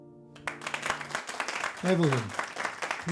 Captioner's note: dancers applauding